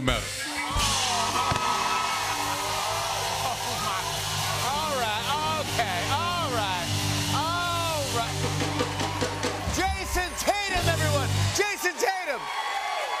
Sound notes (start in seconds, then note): 1.6 cheers and applause